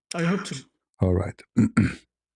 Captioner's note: clears throat